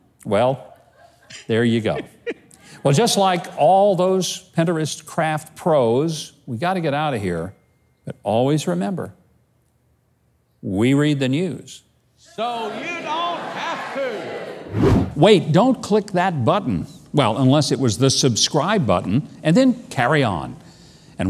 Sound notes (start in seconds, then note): 14.7 wind whooshes